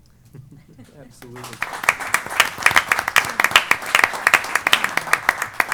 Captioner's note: applause